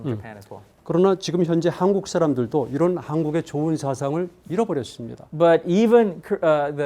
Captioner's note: speaking in Korean